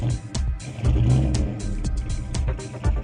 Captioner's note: engine roaring